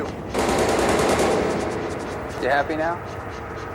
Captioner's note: gun firing